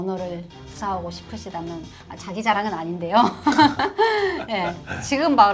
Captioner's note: haha